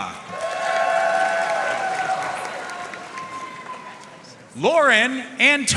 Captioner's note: audience cheering and applauding